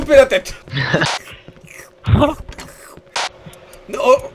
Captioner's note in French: Slurp